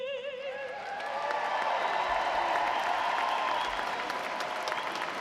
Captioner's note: audience applauding